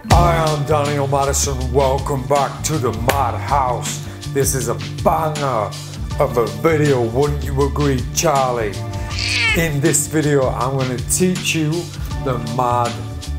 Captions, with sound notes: - Hi, I'm Daniel Madison. Welcome back to the madhouse. This is a banger of a video, wouldn't you agree, Charlie? (cat meows) In this video, I'm gonna teach you the mad bug.